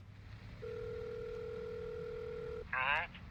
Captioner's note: line ringing